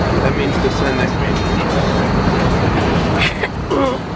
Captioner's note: both chuckling